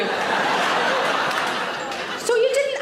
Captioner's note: audience laughs